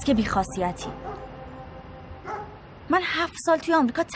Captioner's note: dog barking